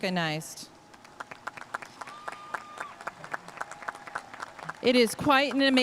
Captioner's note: audience cheering and applauding